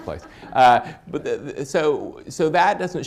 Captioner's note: laughter